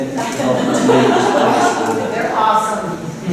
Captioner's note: laughter